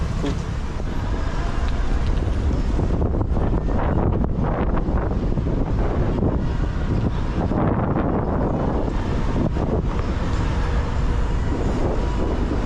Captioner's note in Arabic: رياح